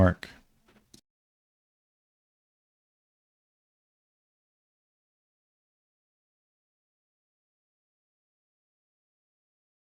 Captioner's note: silence